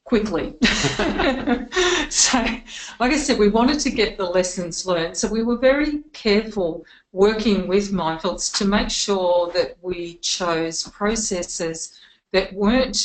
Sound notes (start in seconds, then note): 0.6 both laughing